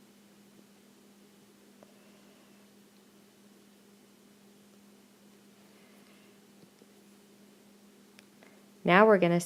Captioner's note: silence